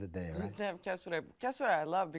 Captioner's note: chuckling